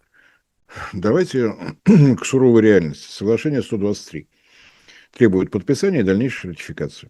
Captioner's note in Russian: откашливается